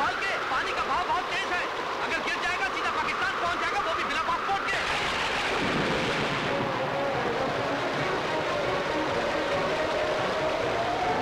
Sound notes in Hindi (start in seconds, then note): none